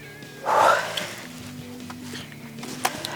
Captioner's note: huffs